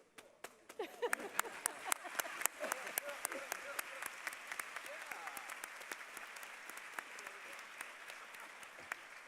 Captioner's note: applause